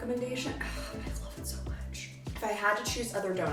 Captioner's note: sighs